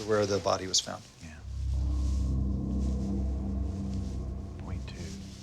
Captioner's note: exhales